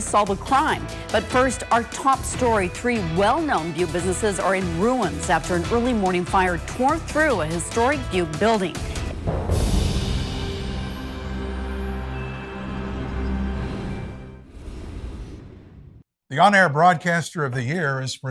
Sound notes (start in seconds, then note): 9.7 soft music; 9.7 wind whooshing